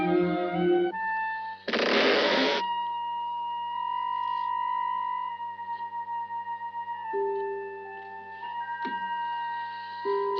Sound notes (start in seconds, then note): 1.7 window creaks loudly